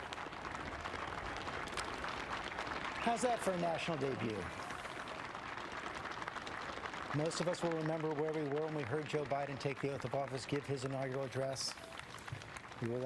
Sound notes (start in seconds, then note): 6.8 cheers and applause